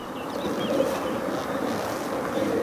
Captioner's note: birds chirping